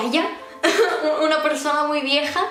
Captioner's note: giggle